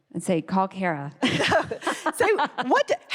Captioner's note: laugh